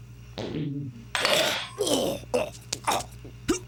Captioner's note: choking